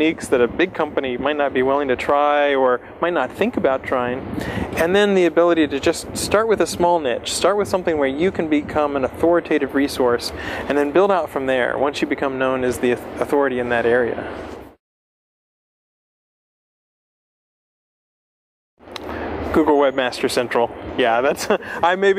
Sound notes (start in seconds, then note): 16.9 pause; 21.3 laughs